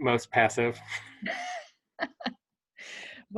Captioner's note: laughter